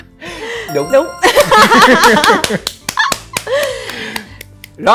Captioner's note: laugh